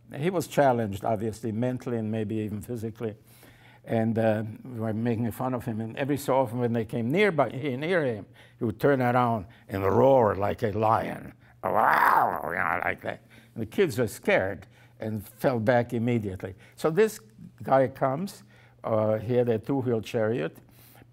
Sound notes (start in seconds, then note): 11.6 makes roaring sound